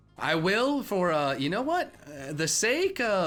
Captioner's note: none